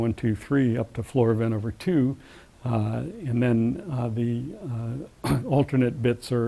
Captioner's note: cough